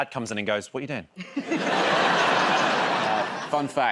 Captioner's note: laughter